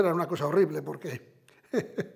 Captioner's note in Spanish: Ríe